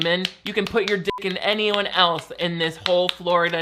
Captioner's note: beep